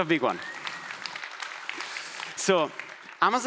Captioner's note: audience applauding